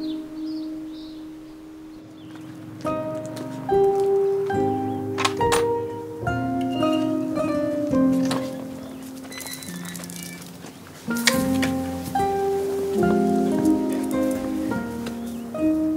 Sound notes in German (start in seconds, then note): 5.1 Klappern; 9.2 Quietschen; 14.3 Nachdenkliche Musik